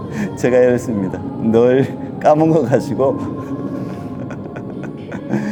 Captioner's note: laughs